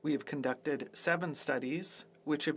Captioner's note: speaking French